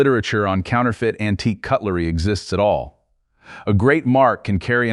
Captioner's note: serious tone